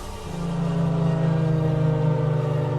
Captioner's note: sirens